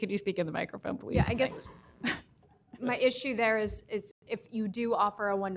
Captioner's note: laughter